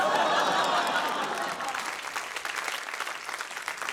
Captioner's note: laughter, groans; applause